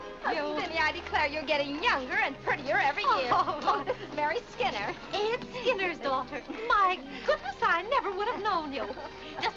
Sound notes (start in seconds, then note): 3.0 Vinnie laughs